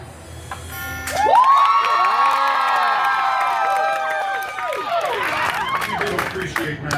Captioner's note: guests cheering and applauding